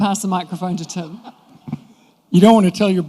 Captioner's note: laughter